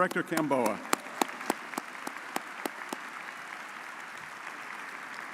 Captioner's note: audience applauds